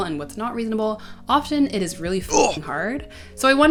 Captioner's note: grunt